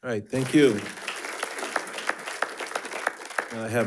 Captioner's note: attendees applauding